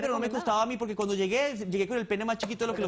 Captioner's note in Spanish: Hablan al unísono